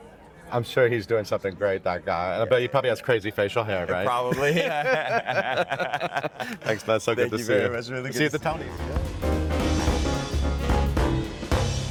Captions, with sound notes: - I'm sure he's doing something great, that guy. But he probably has crazy facial hair, right? - Probably. (both laughing) - Thanks, bud. So good to see. - Thank you very much. - See you at the Tonys. (upbeat music)